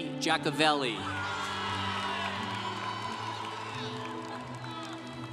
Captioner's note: congregation cheering